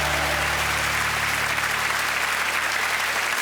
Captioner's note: applause